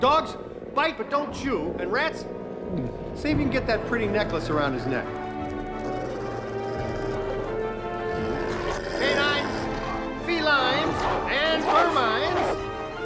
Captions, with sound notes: Dogs, bite, but don't chew. And rats... (Gulps) see if you can get that pretty necklace around his neck. Canines, felines, and vermines...